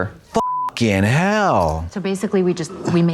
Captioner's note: beep